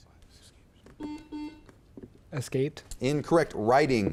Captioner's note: beep